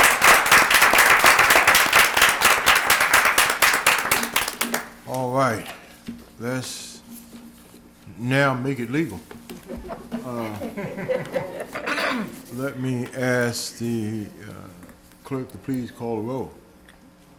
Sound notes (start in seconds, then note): 2.8 applause